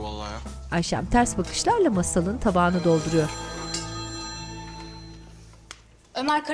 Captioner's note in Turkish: Telefon zili sesi